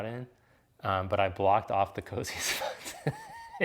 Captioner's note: laughs